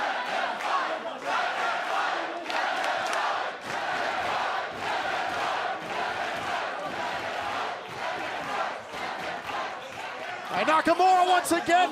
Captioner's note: fans chanting